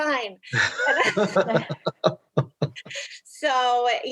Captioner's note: laughs